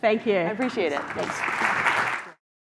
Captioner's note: applause